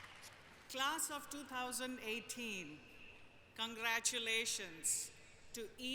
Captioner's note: applause